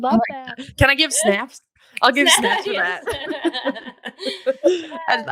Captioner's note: laughing